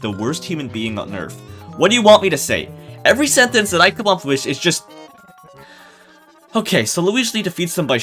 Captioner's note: sigh